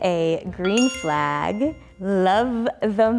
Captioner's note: bell dings